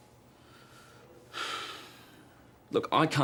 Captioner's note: sighs